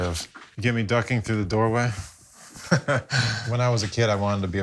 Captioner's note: laughs